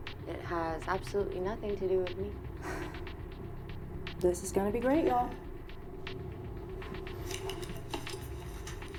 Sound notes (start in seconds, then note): 2.6 Rachel sighs